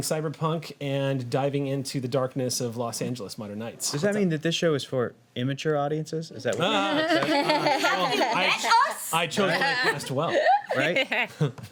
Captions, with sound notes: cyberpunk and diving into the darkness of Los Angeles modern nights. Does that mean that this show is for immature audiences? Is that what you mean? (laughing) Have you met us?! I chose my guest well, right?